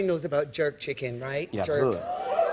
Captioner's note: cheers